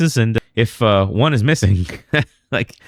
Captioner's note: uh